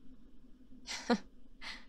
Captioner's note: nervous laugh